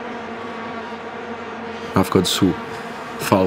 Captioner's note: vuvuzelas buzzing